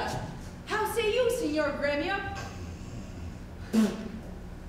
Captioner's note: spits